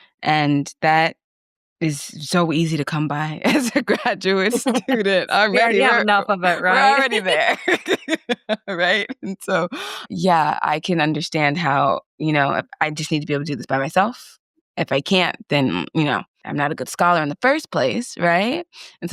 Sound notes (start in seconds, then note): 4.4 laughing; 6.5 both laugh; 6.5 laughing